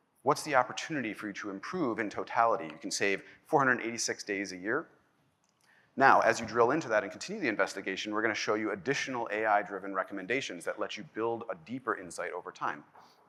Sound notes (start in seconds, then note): none